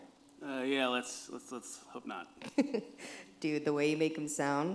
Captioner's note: laughs